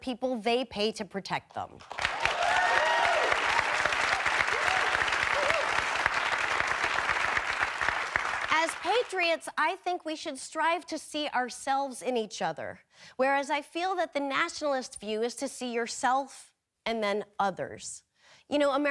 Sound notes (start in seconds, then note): 1.8 audience cheering and clapping